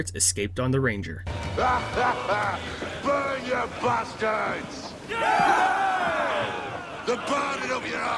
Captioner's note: crew Cheers